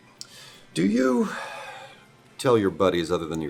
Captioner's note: sigh